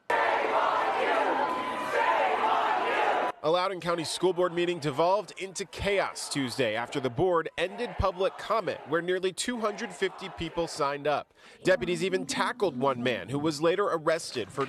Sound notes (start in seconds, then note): 8.0 chanting "shame on you"